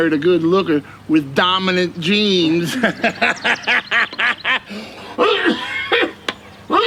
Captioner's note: laughing; Jake coughing